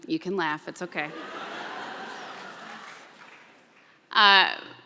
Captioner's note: laughter